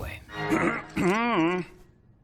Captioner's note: clears throat